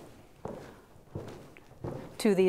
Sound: footsteps

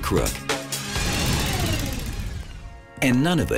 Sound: whirring

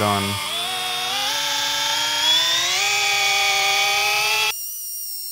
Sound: machine buzzing

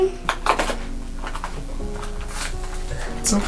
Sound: box crinkling

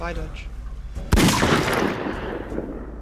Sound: bang

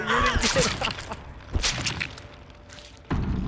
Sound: squish

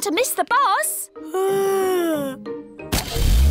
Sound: yawns

